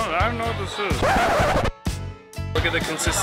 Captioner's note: record scratching